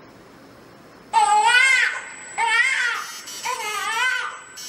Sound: baby crying

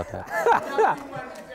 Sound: laugh

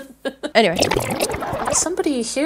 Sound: tape rewinding

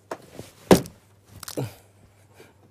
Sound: Crunch

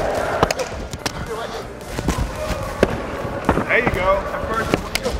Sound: hitting

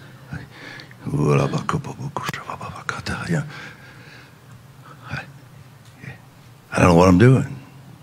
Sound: speaking in tongues

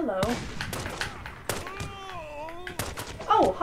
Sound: gunshots

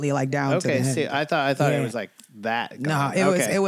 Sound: snaps

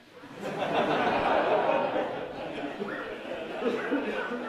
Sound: laughter

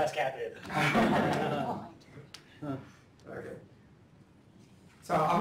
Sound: laughter

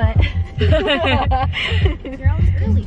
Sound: laughs

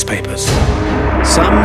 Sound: suspenseful music; planes roaring

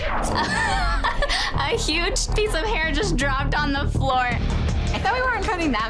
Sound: laughs

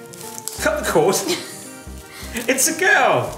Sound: laughs

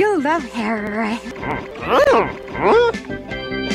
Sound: some grunting sounds r something

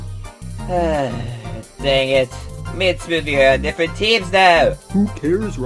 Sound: sigh

